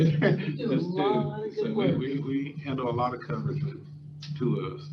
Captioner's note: speaker off microphone